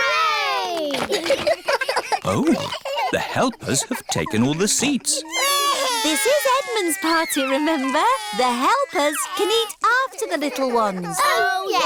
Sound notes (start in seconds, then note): 0.9 giggles; 5.1 babies crying